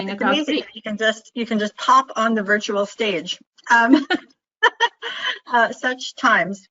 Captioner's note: laughing